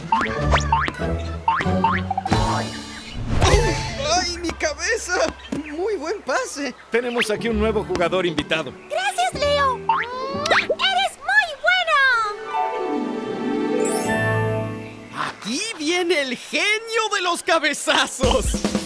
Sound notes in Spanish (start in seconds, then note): 13.4 Sonido de encanto; 18.6 Música alegre